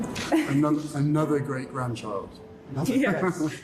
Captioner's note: laughs